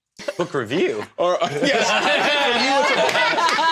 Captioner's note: laughs